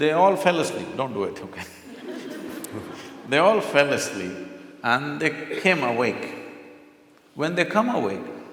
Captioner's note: few laugh